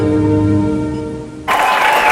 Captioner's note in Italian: Applauso